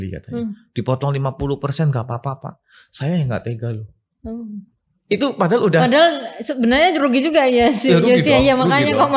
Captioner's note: laughs